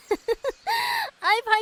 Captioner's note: laughs